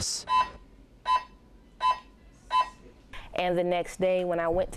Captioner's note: loud beeping